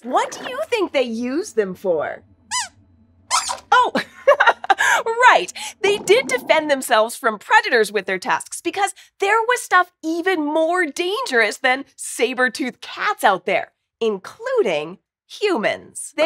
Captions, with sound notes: What do you think they used them for? [Squeaks squeaks] Haha! Right, they did defend themselves from predators with their tusks, because there was stuff even more dangerous than saber-toothed cats out there… including humans!